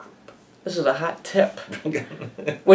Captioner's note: laughs